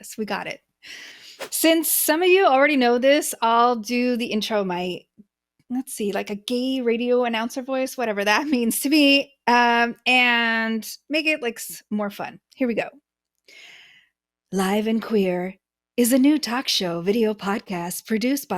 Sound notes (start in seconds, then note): 1.4 whooshing sound; 14.4 speaking lower and breathier